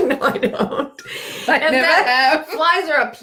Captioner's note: laughing